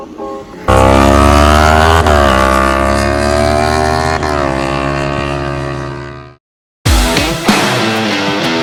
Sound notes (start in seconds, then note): 0.6 motorbike engine; 6.8 rock music